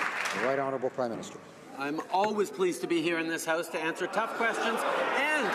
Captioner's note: some Applause